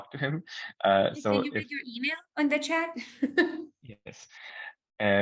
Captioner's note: laughing